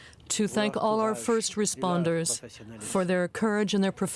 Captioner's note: speaking French